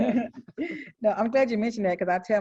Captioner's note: laughter